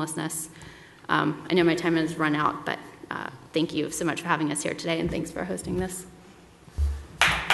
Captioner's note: applause